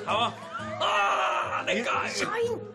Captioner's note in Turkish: Gülme sesi